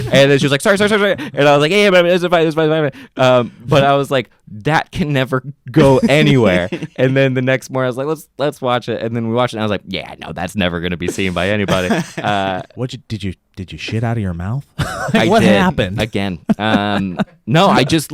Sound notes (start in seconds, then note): 5.8 laughs; 16.4 laughs